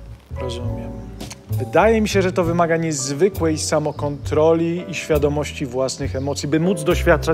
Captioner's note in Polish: cmoknięcie